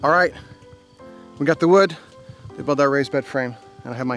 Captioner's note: none